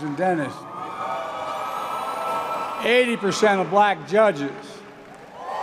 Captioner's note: applause; applause